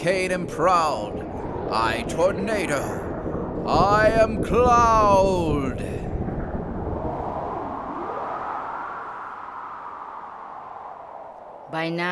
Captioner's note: sound of wind storm blowing